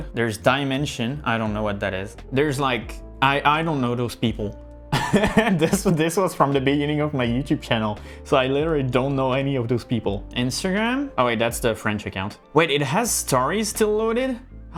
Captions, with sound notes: There's Dimension. I don't know what that is. There's like, I don't know those people. (laughs) This was from the beginning of my YouTube channel. So I literally don't know any of those people. Instagram. Oh, wait, that's the French account. Wait, it has stories still loaded?